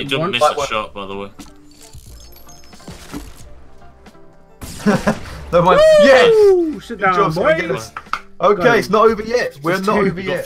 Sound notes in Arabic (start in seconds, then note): 4.6 نيران المدافع; 4.8 ضحك